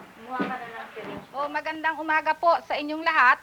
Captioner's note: filipino speech